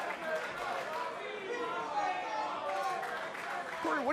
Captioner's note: fans chanting